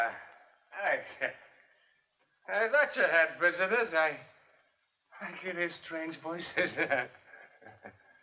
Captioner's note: laughter